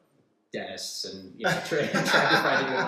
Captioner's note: laughs